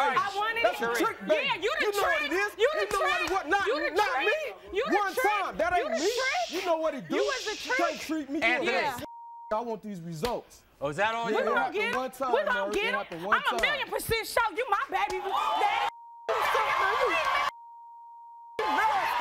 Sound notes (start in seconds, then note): 16.2 audience cheers; 17.5 beep; 18.6 audience cheers